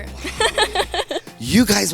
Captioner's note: laughs